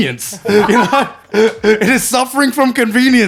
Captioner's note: laughing